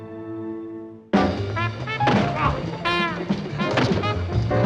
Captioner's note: groans